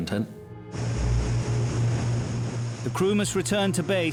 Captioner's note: boat engine revving